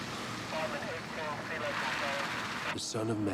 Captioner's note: muffled radio chatter